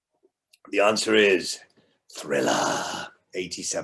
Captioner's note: growls